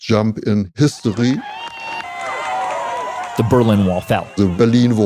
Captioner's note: cheering